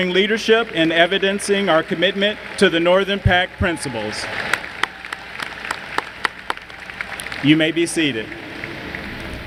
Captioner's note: applause